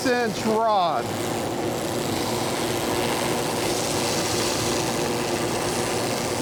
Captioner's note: machine buzzing